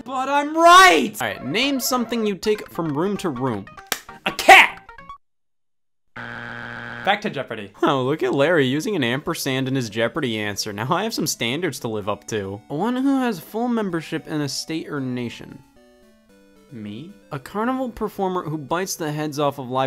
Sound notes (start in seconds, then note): 6.1 buzzer beeps